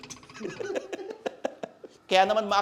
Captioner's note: laughs